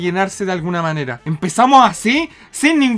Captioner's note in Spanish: inhales